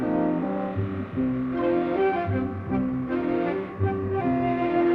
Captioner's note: machinery whirring